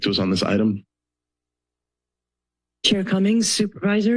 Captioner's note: silence